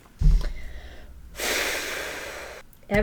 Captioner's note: long exhale